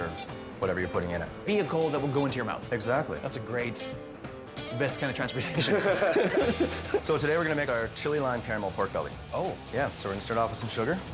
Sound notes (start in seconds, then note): 5.4 laughing; 7.2 upbeat rock and roll music